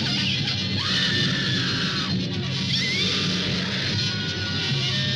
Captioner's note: woman screaming; werewolf snarling